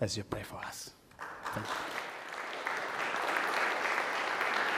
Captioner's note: audience applauds